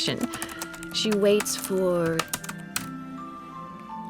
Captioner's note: typing stops